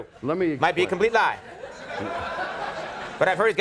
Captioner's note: audience laughing